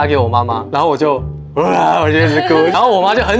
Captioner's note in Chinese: 爆哭